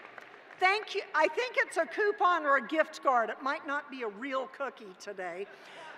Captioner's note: cheering